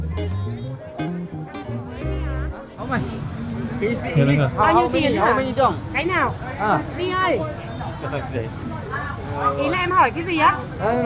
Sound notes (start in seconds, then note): 3.4 speaking Vietnamese